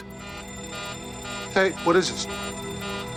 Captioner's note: alert beeping